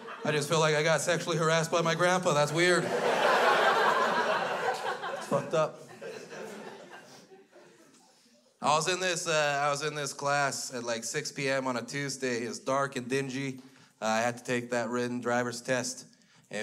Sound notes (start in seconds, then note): 1.7 crowd laughs